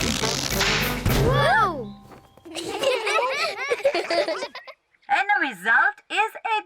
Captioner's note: laugh